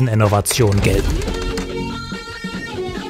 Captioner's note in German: Verzerrte Klänge